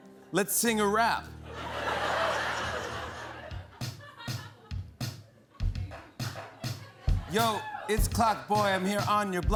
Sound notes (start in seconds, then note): 1.4 laughter